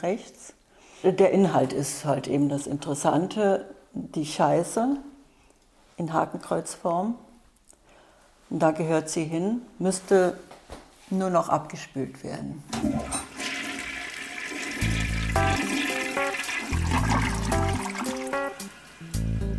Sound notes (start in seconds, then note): 12.7 flush; 14.5 jazz music; 16.3 toilet flushes